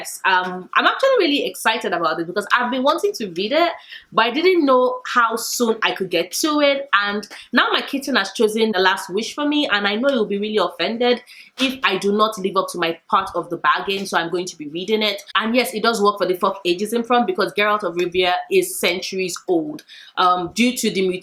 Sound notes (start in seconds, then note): none